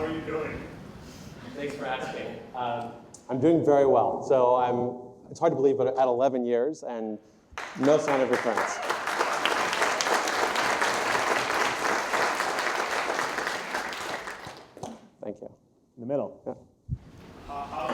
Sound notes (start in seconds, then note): 7.5 audience applauding